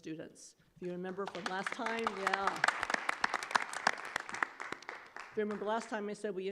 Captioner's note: clapping